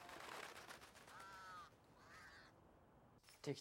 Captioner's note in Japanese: 鳴き声